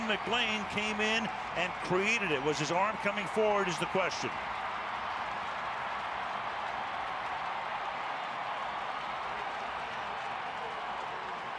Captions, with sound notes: Terrell McClain came in and created it. Was his arm coming forward is the question. [crowd cheering]